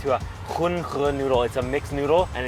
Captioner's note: speaking foreign language